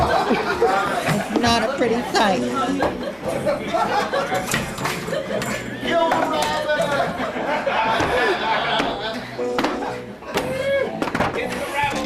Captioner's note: laughter